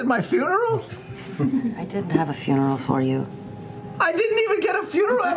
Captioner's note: morosely